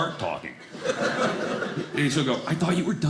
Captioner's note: audience laughing